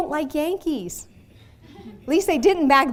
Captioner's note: audience laughing